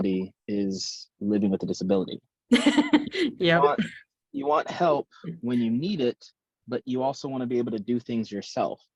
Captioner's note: laughs, "yup!"